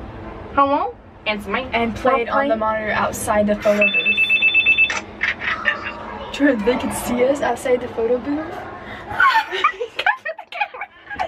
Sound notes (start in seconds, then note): 3.8 phone ringing; 9.1 laughs